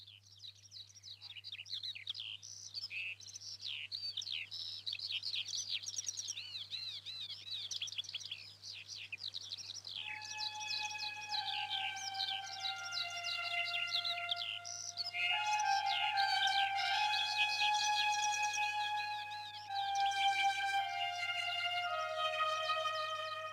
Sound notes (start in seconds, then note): 12.2 🎵Honk🎵